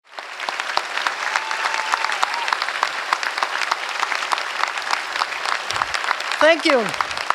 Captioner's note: applause